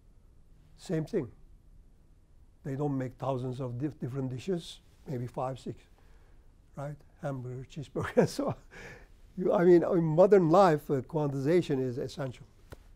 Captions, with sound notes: Same thing. They don't make thousands of different dishes, maybe five, six, right? Hamburger, cheeseburger, so on (laughs). I mean, modern life, quantization is essential.